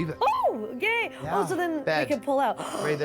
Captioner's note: gasps